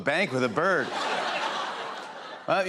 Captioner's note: laughter